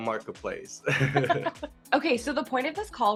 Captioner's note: both laughing